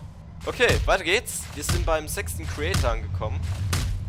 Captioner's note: punch noises